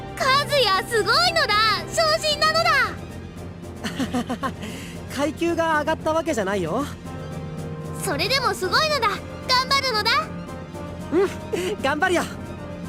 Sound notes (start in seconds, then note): 3.8 awkward laugh